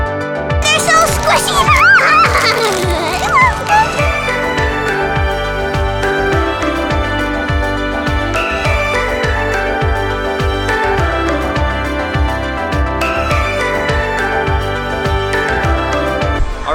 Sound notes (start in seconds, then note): 0.7 squeals; 4.0 upbeat music